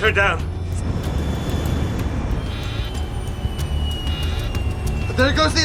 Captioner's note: plane engine roars